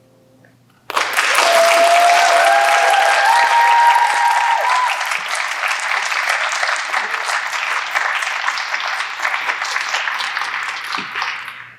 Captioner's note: applause